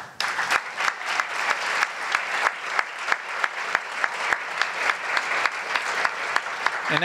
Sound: applause

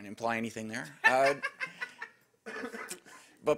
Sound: woman laughing

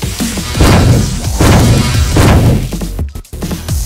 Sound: clunking

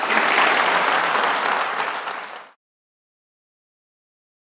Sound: audience applauding

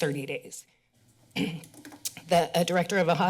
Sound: clears throat

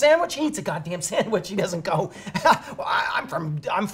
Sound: chuckles

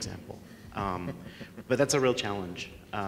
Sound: laughing

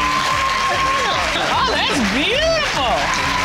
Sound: audience hooting; giggling

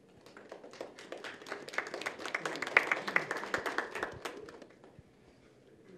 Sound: applause

